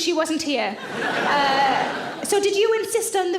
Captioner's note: audience laughs